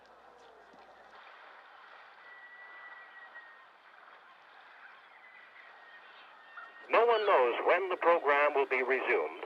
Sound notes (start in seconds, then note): 1.0 water lapping